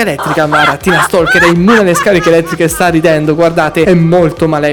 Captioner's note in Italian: risate